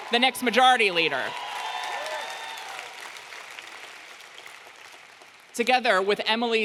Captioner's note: audience clapping and cheering